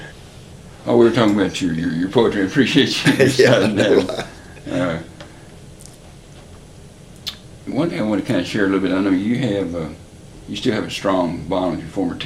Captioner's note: laughter